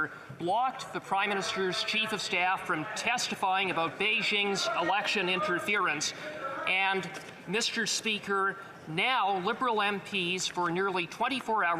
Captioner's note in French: voix de l'interprète